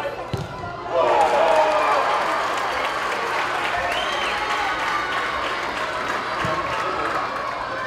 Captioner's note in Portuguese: gritos de gol